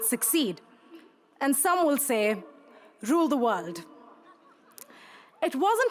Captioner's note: crowd laughs